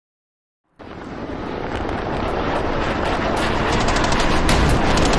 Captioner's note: helicopter whirring; machine gun firing